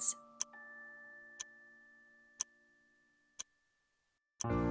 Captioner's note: music ends. Clock ticking fades out; theme - soft, romantic music